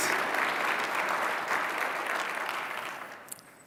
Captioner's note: applause